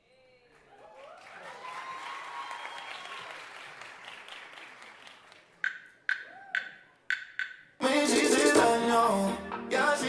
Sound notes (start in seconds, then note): 0.6 audience cheering and applauding